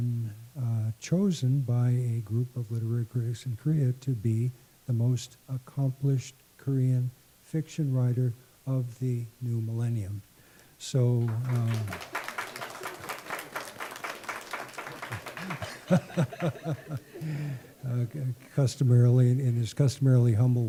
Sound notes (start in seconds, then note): 11.2 clapping